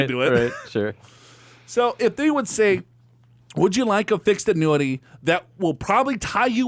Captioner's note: laughs